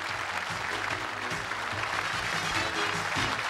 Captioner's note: applause